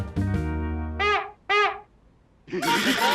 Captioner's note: honks horn; laughter and music